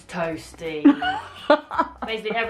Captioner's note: laughs